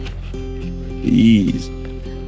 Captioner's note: speaking Italian